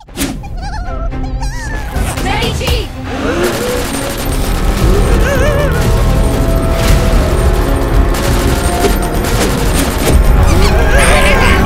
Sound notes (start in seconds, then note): 0.1 scared noises; 3.6 gun noises; 8.1 gun noises